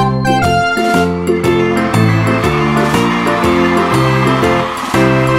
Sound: audience cheering

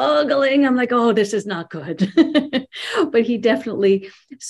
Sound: laughs

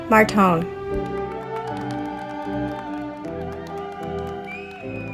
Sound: audience applauding

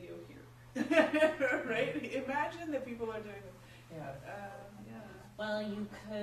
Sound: laughs

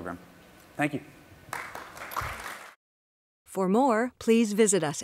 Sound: applause

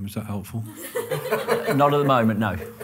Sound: loud laughter

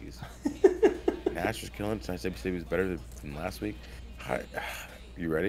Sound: laugh

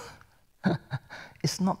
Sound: chuckles

